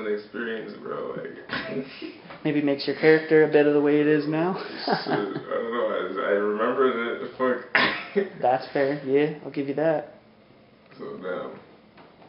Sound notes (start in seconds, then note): 1.2 laughs; 4.6 laughs; 7.7 chuckles